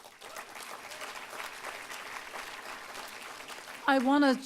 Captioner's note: applause